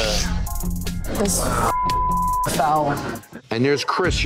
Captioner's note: beep